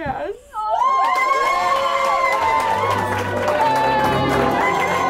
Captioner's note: crowd cheering; inspiring music